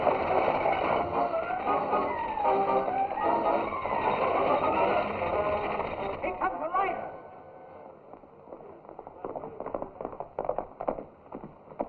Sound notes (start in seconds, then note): 8.5 horse galloping